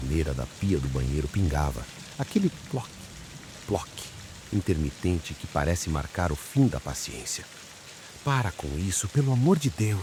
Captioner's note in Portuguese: ploc… ploc…